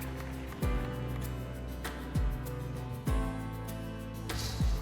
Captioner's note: fence rattling